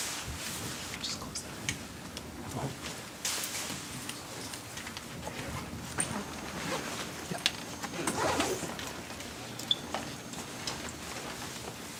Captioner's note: background chatter